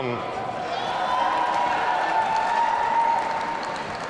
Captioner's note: audience cheering